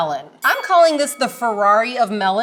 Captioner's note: bell dings